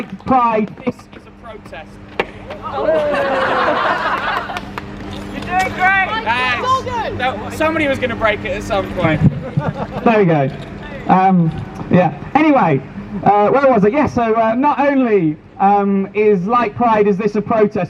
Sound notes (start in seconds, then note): 2.5 mic cable falls out, as crowd laughs at the lack of sound